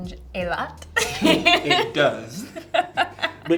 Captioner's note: Amandla laughing